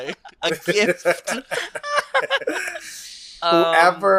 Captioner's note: laughs